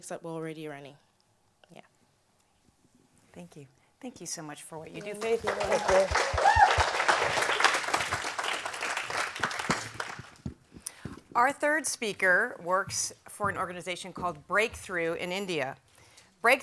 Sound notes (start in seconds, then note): 4.9 audience applauds